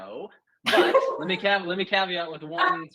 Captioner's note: laughs